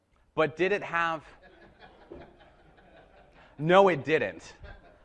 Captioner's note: audience laughing